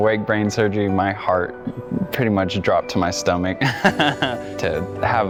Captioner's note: laughs